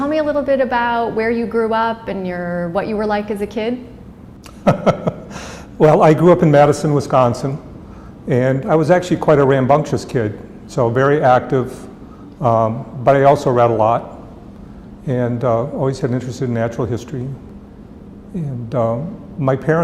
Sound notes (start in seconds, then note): 4.4 chuckle